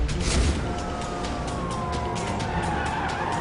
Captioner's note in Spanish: Ruido de sirenas